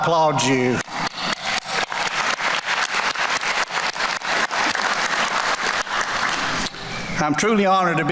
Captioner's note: applause